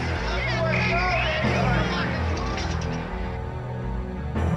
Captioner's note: objects clattering; whistle blowing; ominous music